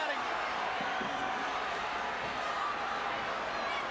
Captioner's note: crowd chattering